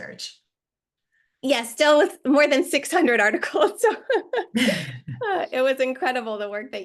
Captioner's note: laughs